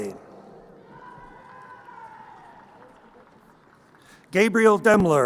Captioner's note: crowd cheering